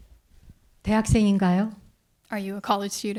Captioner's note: speaking in Korean